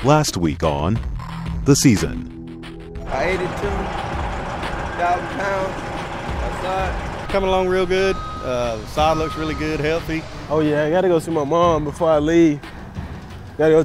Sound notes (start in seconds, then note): 2.9 truck engine rumbling